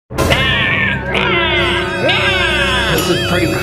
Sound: screams

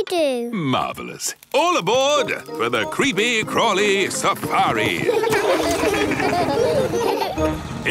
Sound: laughing

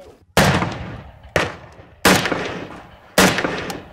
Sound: gunshots

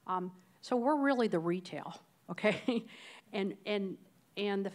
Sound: laughs

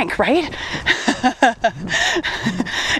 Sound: laughs

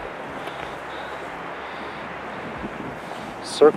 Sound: exhales

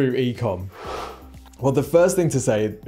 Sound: screen wipe whooshes

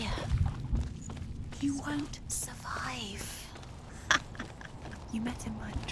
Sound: cackling laughter

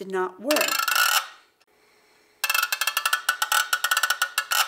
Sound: turning crank

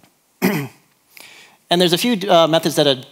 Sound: clears throat

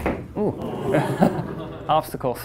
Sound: students laughing

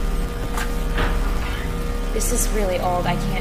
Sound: door creaks

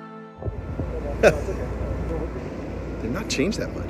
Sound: chuckles

